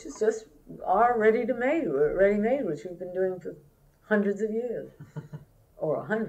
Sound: laughter

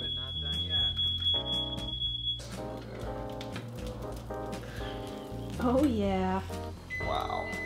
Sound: smoke alarm going off

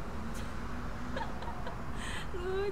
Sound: laughing

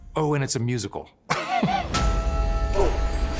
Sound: laughing

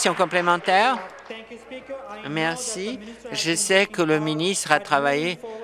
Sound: applause

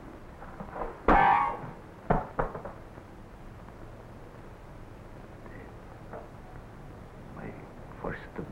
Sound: accordion clanks to the floor

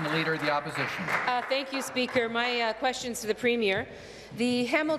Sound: applause

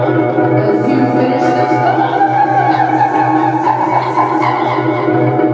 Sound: sh-sh-shh

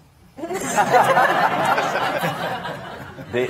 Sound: all laughing

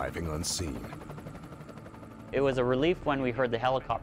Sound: voiceover

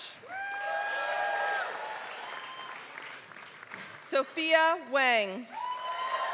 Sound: applause

